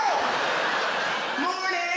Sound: crowd laughter

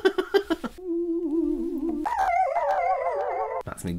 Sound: christmas Wailing

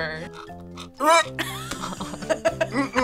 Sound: gags; both laugh

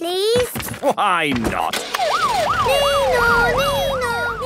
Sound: siren sounding

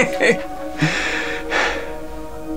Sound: laughter; sighs

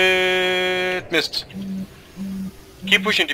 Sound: vibrating phone in the backround

